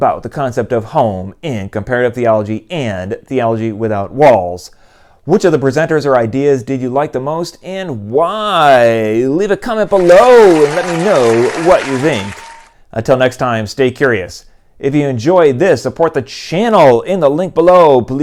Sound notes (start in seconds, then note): 9.8 applause